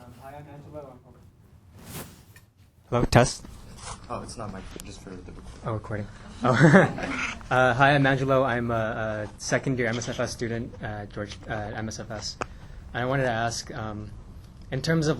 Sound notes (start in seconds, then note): 6.0 laughs